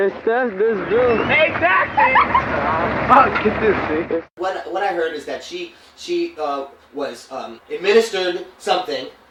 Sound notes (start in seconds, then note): 2.0 laughing